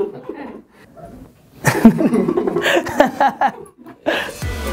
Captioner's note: chuckling